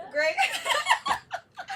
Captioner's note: both laugh